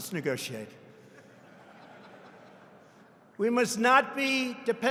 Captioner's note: laughter